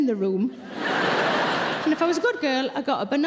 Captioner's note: audience laughing